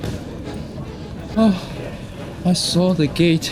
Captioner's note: sighs